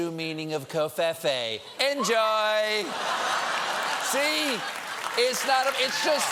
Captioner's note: laughter